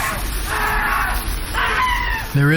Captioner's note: screaming